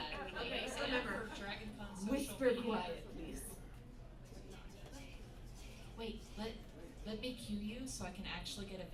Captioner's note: whisper chant starts